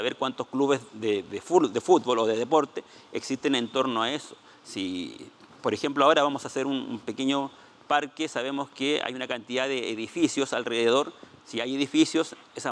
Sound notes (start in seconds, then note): 8.9 speaking Spanish